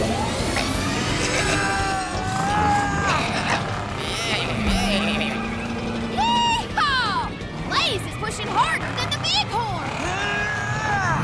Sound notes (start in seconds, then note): 0.1 straining; 3.7 bleating; 9.8 straining